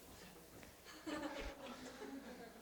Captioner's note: audience: Laughter